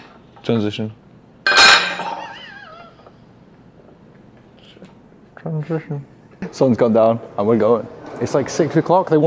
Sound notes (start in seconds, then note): 0.3 metal clicks; 1.4 metal clanks; 1.5 wheezes